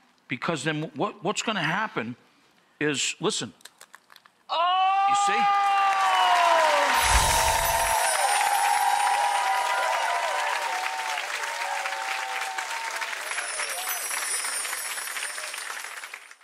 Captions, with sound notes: because then what's gonna happen is listen... (chip crunching) Oh! You see? (cheering and clapping) (bells chiming) (audience cheering and clapping) (bells chiming)